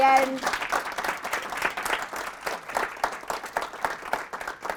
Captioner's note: applause